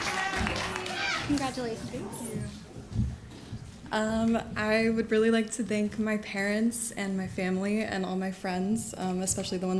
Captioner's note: crowd booing